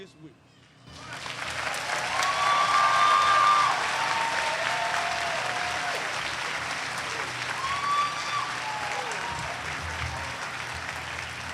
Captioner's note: applause